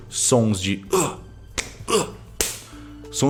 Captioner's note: sound of punches